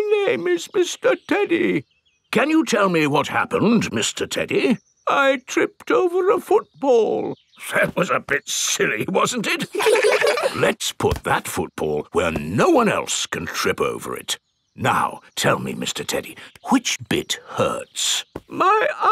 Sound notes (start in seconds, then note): 0.2 in teddy's voice; 2.6 in normal voice; 5.4 in teddy's voice; 8.2 in normal voice; 9.4 kids laugh